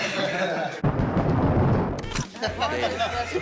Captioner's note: band members laughing; thunder rumbling effect; person laughing